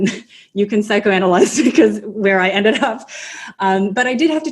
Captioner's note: laughs